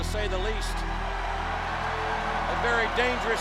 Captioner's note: crowd cheers; haunting music